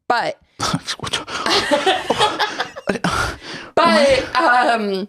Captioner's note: huffing indignantly; laughs